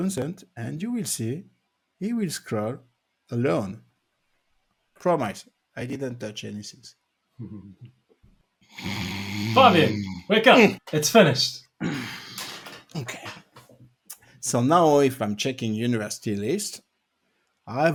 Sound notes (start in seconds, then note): 8.7 snoring